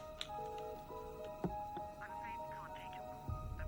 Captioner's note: phone ringing